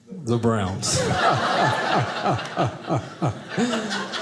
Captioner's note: audience laughing